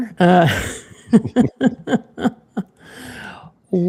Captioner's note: laughs